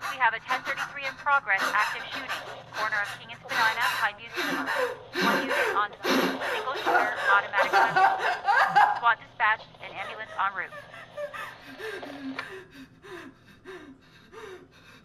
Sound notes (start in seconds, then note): 4.3 rapid gasping; 8.2 wailing; 11.7 gasping and crying